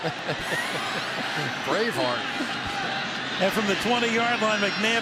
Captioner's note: laughs